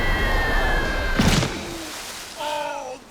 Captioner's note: splat